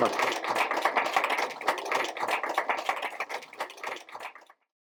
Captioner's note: applause